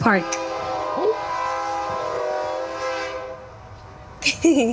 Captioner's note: train horn; giggle